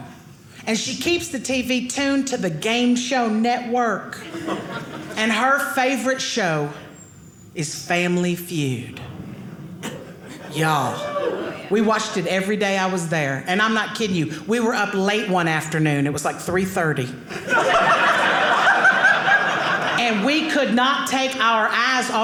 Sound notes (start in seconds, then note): 17.3 audience laughing